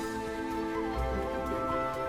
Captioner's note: sounds of a little glade